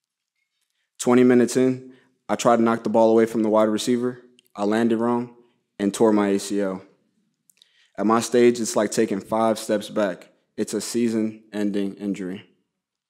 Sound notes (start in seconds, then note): none